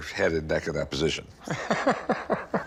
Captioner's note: laughs